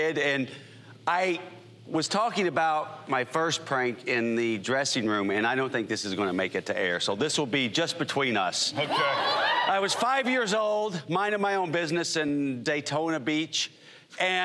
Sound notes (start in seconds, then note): 8.8 whooping